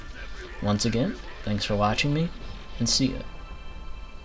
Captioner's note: voice cracked